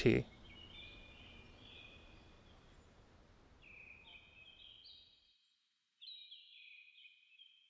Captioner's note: forest ambience